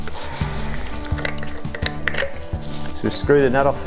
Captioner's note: plastic rattling